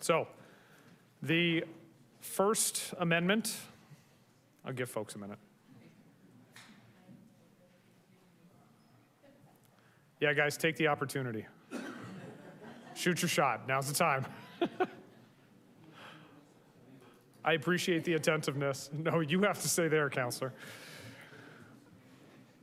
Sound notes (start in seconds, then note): 11.8 audience chuckles; 14.3 chuckles